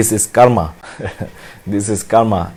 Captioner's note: laughs